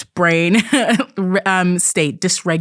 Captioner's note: chuckles